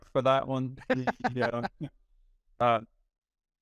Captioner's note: laughing